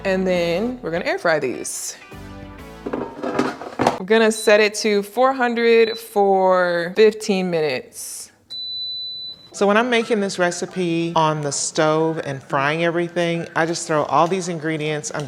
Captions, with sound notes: And then we're gonna air fry these. (air fryer clattering) We're gonna set it to 400 for 15 minutes. (air fryer beeping) - So when I'm making this recipe on the stove and frying everything, I just throw all these ingredients